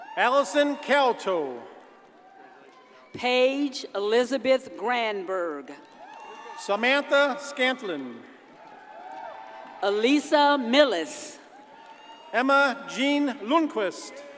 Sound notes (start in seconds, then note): 8.4 audience cheers and applauds